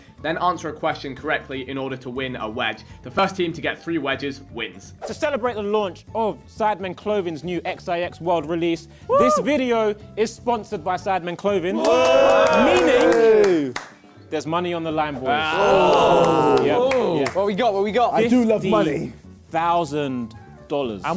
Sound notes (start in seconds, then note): 11.7 crow cheering; 15.9 both booing